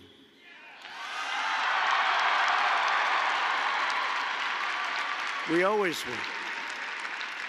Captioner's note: applause